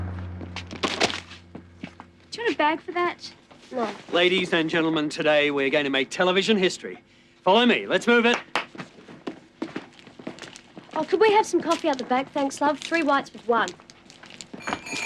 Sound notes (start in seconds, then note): 8.2 claps hands; 14.2 bells jingling